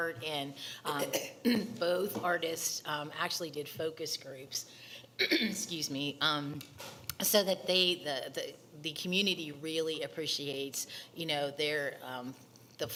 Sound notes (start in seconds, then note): 5.2 clears throat